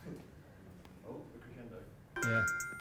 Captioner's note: voiceover; bell tones